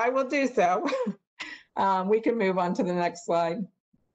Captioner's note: laughter